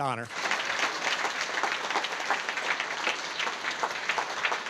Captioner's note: audience applauding